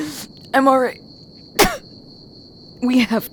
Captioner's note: Emily spits